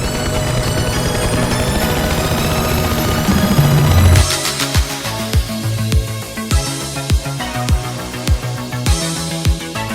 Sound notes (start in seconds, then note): 0.0 helicopter takes off